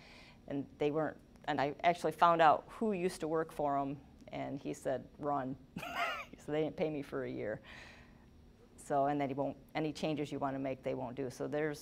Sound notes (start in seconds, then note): 5.8 laughing